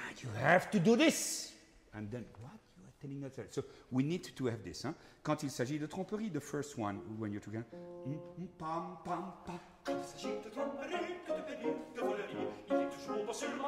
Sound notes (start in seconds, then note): 5.4 speaking in foreign language; 9.6 singing in foreign language